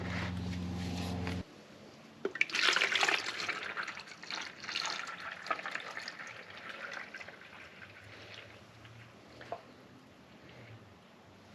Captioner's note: pouring fluid sound